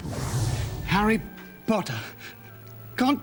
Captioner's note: stuttering